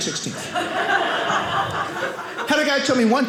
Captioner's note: audience laughing